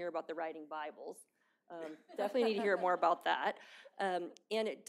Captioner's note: laughter